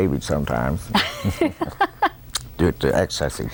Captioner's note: laughter